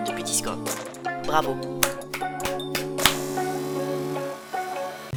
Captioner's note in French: Applaudissements